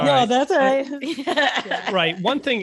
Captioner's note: laughing